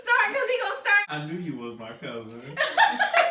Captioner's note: sassy; everyone laughs